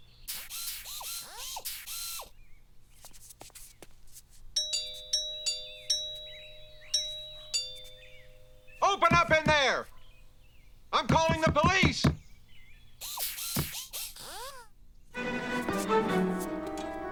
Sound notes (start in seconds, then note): 0.3 whirring; 4.6 doorbell ringing; 13.0 whirring